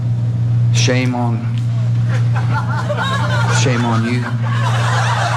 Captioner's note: laugh